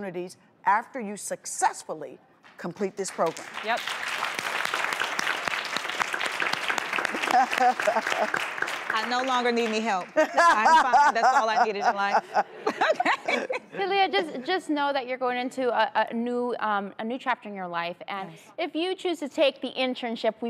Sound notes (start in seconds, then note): 3.1 applause